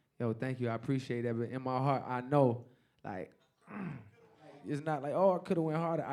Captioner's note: grunts